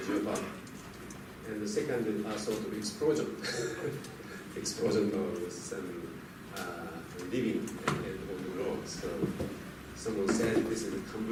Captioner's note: laughs